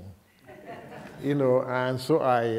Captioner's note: laughter